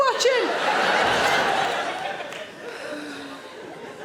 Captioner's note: audience laughing